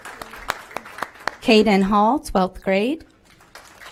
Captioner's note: applause